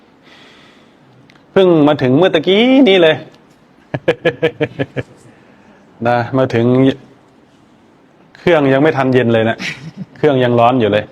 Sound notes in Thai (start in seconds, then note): 3.9 เสียงหัวเราะ